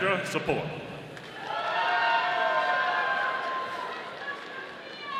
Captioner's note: audience applauding